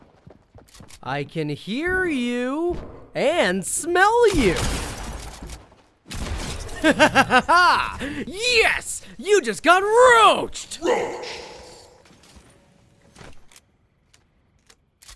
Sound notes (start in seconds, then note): 6.7 laughs